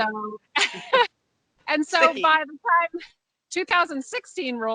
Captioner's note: laughs